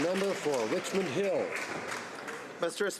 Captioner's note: some Applause